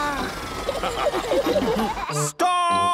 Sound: all laughing

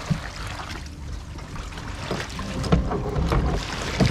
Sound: gentle waves

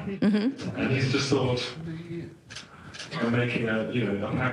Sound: none

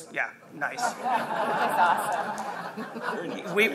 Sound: laughter

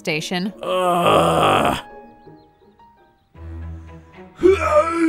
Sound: Roach grunting

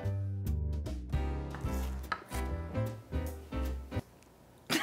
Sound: jazzy music; chopping; laughing

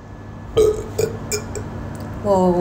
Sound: burps

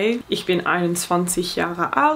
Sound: speaking in foreign language

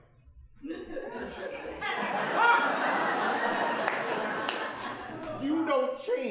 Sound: audience laughing

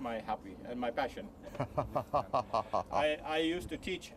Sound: laughs

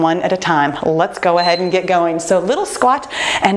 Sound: timer beeping

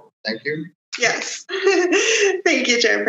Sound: laughs

